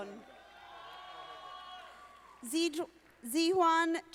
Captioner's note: audience applauding